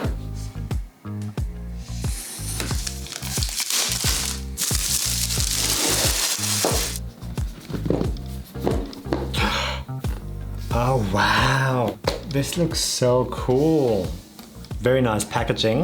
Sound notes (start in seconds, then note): 0.2 bright upbeat music; 2.5 plastic wrapper crinkling